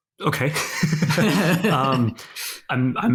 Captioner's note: both laughing